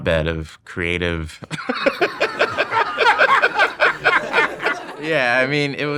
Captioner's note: both laughing